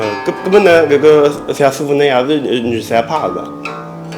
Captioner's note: wu Chinese